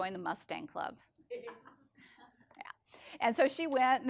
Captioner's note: people laughing